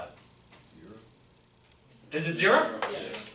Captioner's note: voiceover